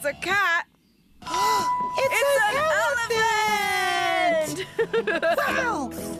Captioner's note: gasp!